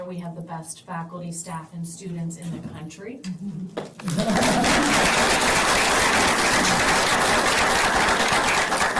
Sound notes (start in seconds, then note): 4.0 applause